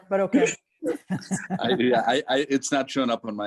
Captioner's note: laughing